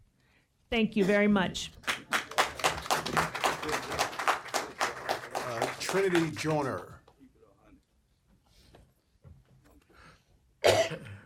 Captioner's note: applause